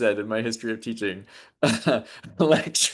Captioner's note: laughs